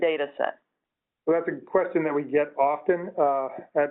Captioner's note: voiceover